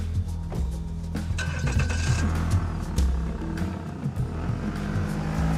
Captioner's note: engine starting